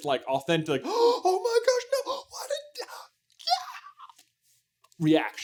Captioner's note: gaaaaaasp